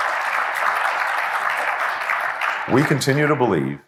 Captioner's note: applause